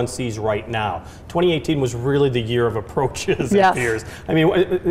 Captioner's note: laughing